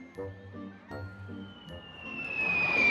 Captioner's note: air whistling